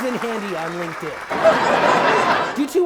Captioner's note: big ole laugh